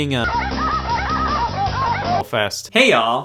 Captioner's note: synthesized dog noises play